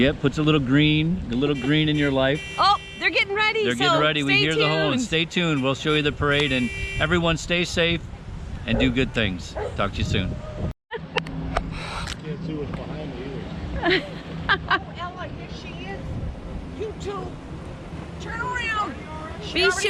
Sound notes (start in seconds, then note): 10.8 laughter